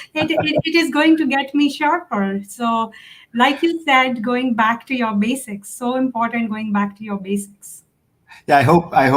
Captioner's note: laughs